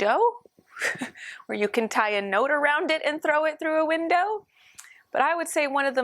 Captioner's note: laughter